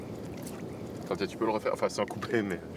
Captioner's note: speaking French